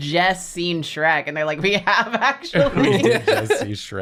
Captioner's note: laughs